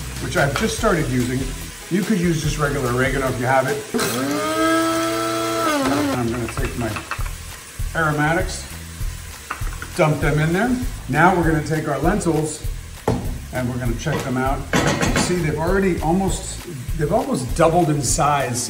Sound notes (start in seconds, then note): 3.8 food processor buzzing